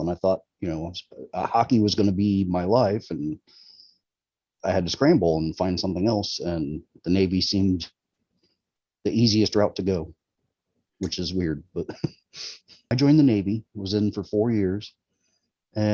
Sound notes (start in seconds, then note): 11.0 chuckling